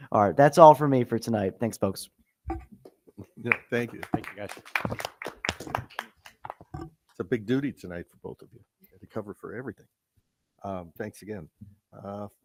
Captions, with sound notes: All right, that's all for me for tonight, thanks folks. >>Yeah, thank you. Thank you guys. (people applauding) It's a big duty tonight for both of you to cover for everything. Thanks again.